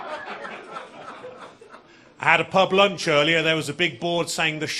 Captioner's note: audience laughing